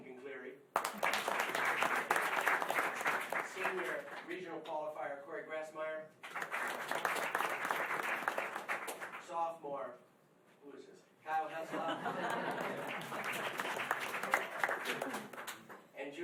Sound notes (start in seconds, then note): 0.7 applause; 6.2 applause; 11.5 laughing, applause